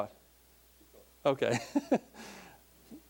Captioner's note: laughing